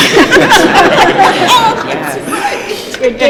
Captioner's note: laughter